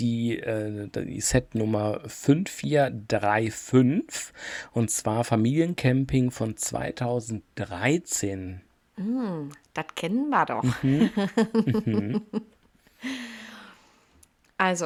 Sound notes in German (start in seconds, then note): 10.6 gelächter